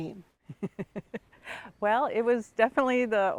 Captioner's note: chuckles